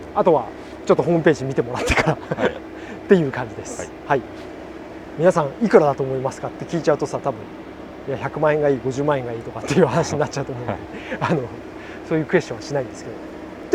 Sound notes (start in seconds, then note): 7.5 laughs